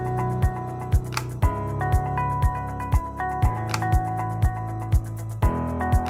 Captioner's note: upbeat instrumental music; camera shutter clicking